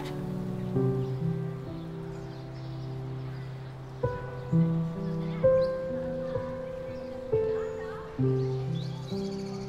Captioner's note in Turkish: Duygusal - Müzik; Kuş cıvıltısı sesleri